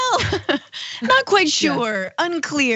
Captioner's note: laugh